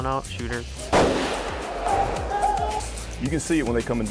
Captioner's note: gun shot